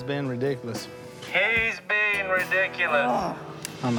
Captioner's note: annoyed grunt